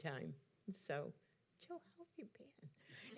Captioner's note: whispering